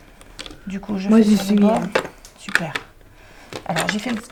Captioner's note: speaking in foreign language